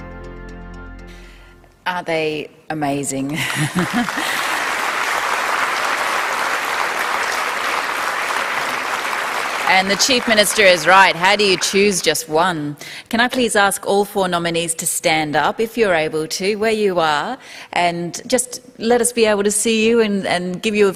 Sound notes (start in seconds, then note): 7.3 applause